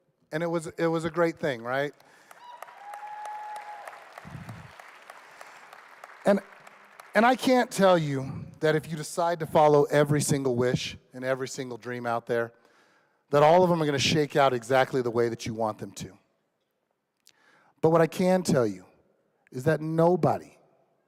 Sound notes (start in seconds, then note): 3.9 applause